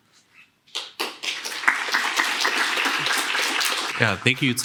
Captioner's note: applause